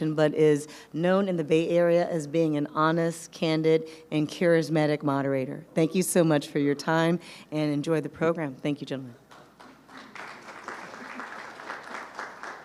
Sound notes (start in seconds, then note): 9.4 audience applauding